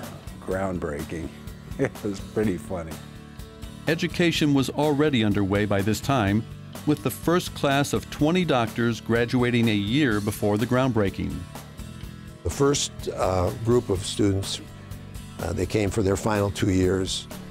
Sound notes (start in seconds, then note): 1.7 laughing